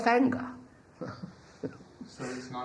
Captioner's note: laughs